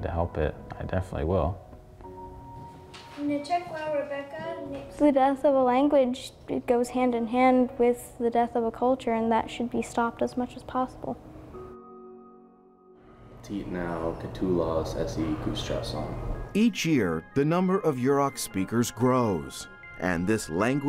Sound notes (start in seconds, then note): 13.2 speaking Yurok